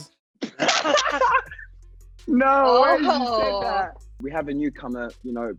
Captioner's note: laughs